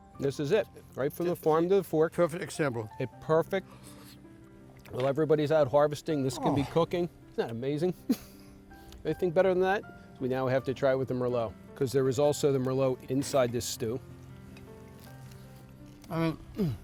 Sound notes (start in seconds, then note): 8.0 laughs